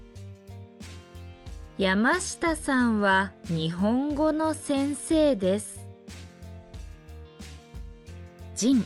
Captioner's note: Japanese language